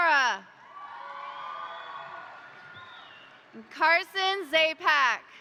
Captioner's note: crowd cheering; crowd applauding